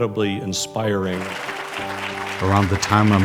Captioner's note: audience clapping